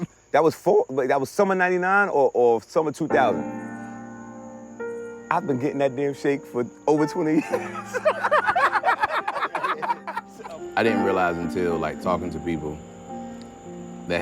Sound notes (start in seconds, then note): 3.9 gentle piano music; 7.3 all laughing